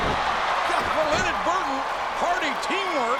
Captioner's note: audience cheering